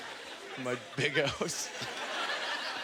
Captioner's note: audience laughter